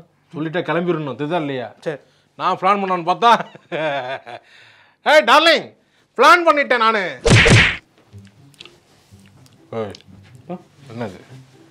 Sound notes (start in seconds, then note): 3.8 laughing